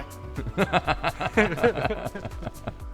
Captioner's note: laughter